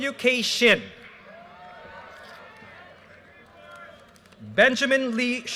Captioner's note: audience cheers and applause